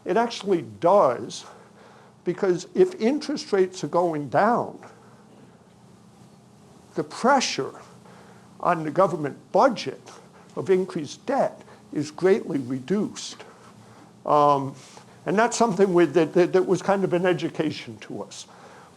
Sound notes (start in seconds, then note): none